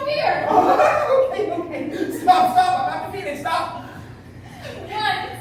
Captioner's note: giggling